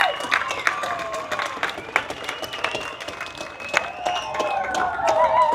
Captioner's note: applause